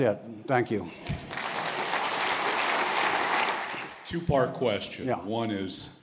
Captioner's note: applause